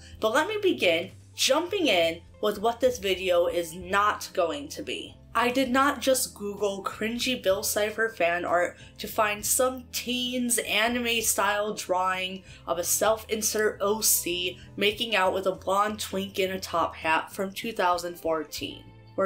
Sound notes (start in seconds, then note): none